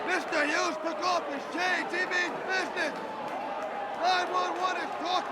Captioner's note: crowd chatter